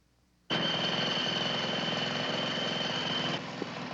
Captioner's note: motor running loudly